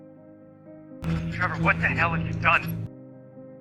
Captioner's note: over comms